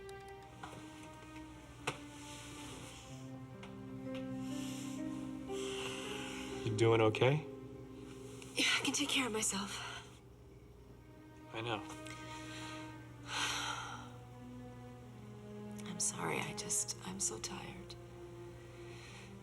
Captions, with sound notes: (dramatic music) - You doing okay? - Yeah, I can take care of myself. - I know. (sighs) - I'm sorry, I'm just, I'm so tired.